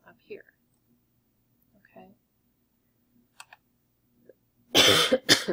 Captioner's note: coughing